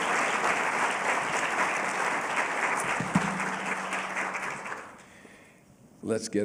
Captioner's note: applause